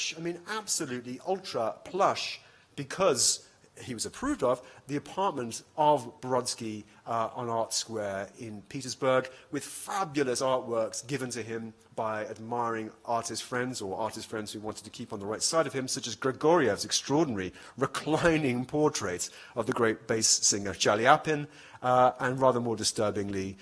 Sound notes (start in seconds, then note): none